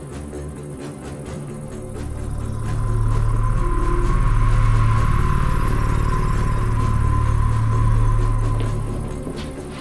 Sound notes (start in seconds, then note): 1.6 sourceless humming